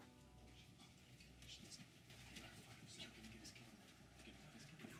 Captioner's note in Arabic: همس ناعم